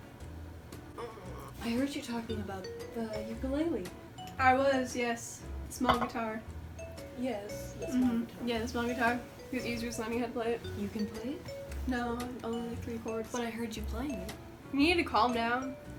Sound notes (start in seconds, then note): 0.9 groans softly; 1.4 clicks tongue